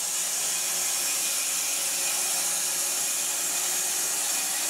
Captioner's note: saw whirring